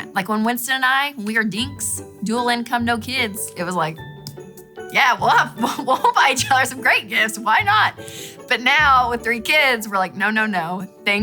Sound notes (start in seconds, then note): 5.3 laughs